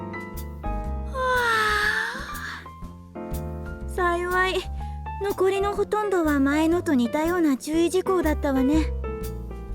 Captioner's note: yawn